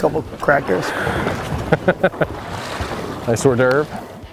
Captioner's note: laughs